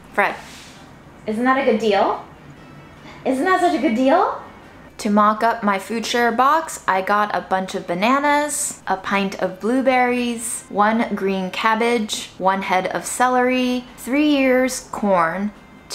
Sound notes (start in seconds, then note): none